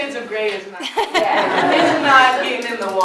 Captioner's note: laughter